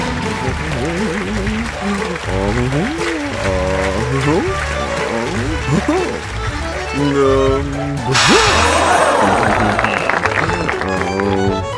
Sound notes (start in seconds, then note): 6.1 humming; 8.0 audience gasp and clap